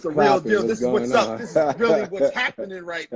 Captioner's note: laughing